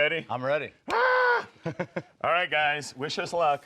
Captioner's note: laughs